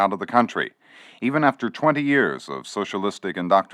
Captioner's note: archival news audio